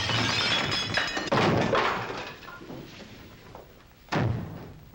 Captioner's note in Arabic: تتحطم الأشياء; تحطم الكرسي